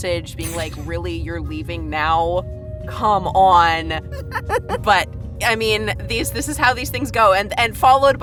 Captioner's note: giggles